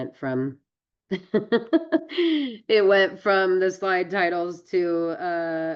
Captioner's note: laughs